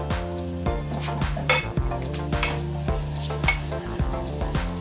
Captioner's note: garlic sizzling